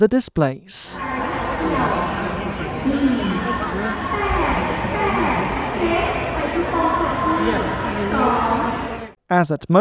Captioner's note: station announcement being made in the Laotian language